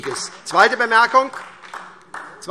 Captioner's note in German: Beifall SPD